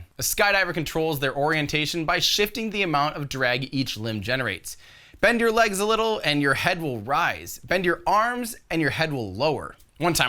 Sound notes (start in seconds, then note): none